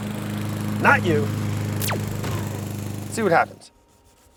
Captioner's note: lawn mower humming